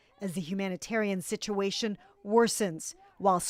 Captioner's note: chanting